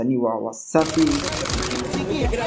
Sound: camera clicks

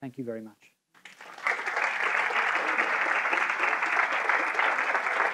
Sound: audience applauding

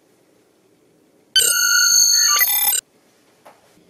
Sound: transporter control panel to begin transport sound

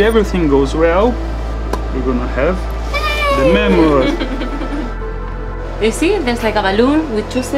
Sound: laughing

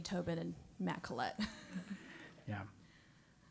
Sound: laugh

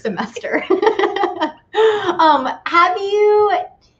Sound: laughs

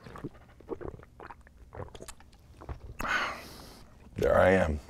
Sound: gulps

